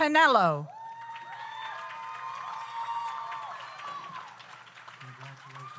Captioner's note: audience applauds; audience cheers